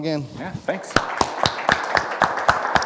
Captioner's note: audience applauds